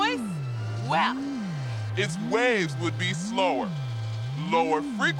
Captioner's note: normal voice; deep voice